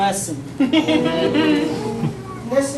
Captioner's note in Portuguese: risada